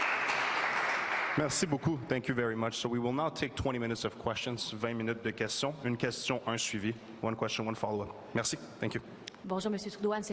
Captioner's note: applause